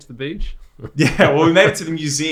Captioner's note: laughs